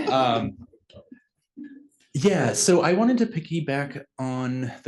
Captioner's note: laugh